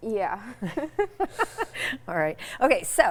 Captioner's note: laughing